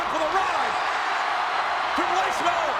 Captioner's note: audience cheers